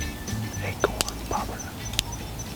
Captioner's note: whispering